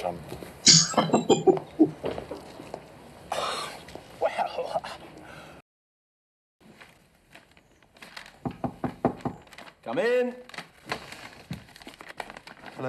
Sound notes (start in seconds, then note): 0.8 laughing